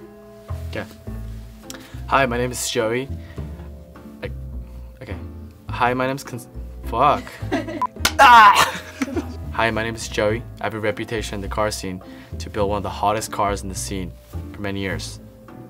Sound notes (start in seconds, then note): 7.2 laughter; 8.2 laughs